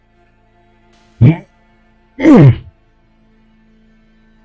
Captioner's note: sounds of effort